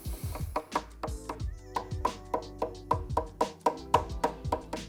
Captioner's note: hammer tapping; mellow music